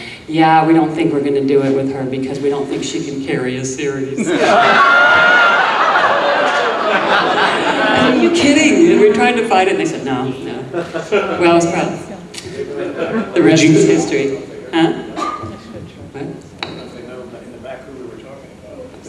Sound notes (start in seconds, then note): 4.2 audience laughing